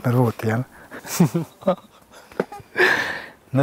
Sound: laughs

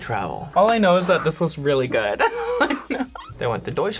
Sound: laughs

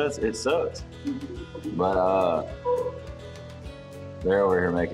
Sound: giggling in background

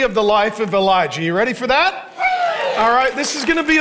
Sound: congregation cheering

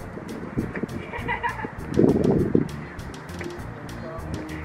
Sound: laughing; soft upbeat music

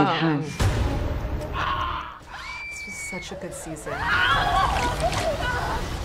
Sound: people screaming

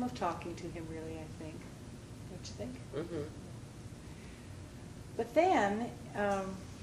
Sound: vocalizes

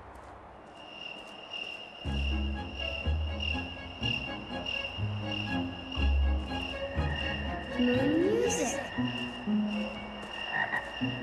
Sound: cricket chirping; croaking

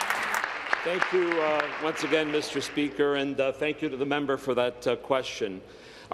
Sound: applause

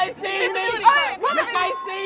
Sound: ding

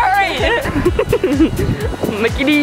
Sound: laughing

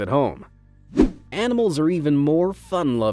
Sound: transitional wipe-screen rushing sound

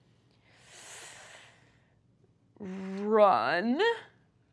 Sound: inhales

